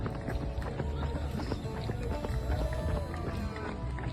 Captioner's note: running footsteps